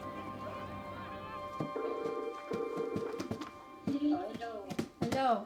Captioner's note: ringing